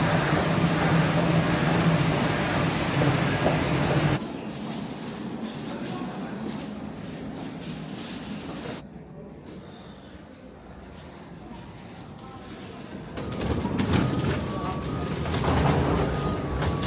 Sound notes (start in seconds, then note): 0.2 footsteps tapping; 4.2 luggage rolling; 13.2 luggage wheels thumping